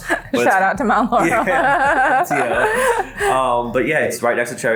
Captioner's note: laughing together